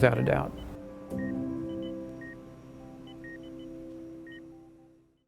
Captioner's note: heart monitor beeping